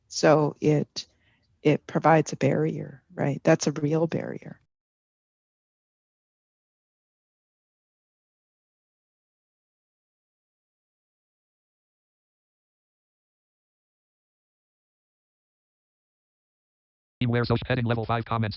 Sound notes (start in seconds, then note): 4.8 silence